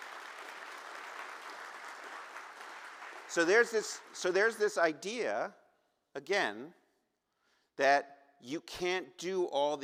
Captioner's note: applause